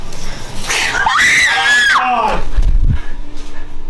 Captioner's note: screaming